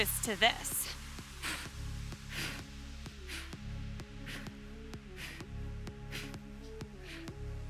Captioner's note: upbeat music continues; breathing deeply